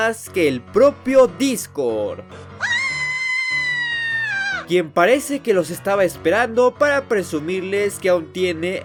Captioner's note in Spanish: Grito de perra loca